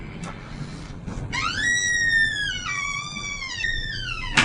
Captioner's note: door creaking